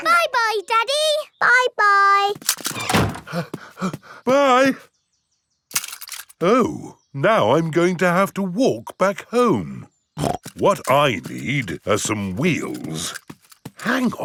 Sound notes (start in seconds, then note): 0.1 snorts; 3.9 panting; 10.2 snorts